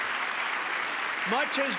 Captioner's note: applause